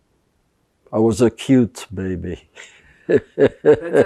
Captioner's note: laughing